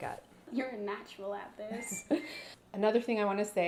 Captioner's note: laughs